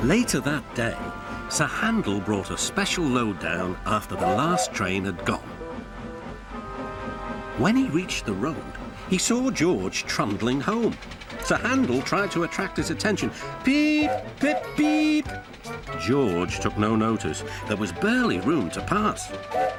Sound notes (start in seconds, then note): 14.0 Sir Handel whistles; 19.4 Sir Handel whistles, George whistles back